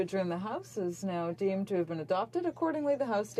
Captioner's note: speaking French